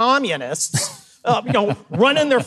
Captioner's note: Mike laughs